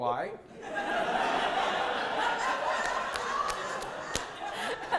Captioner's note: audience laughter